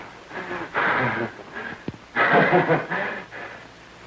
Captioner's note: breathing heavily